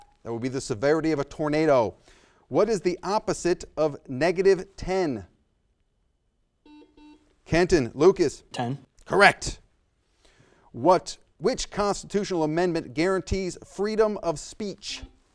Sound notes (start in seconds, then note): 6.6 buzzer sounds